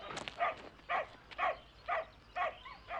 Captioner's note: barking